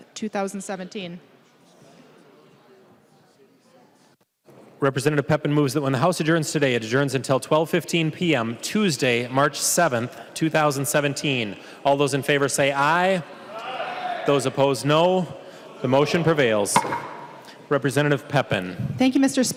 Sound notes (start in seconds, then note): 16.2 chorus of ayes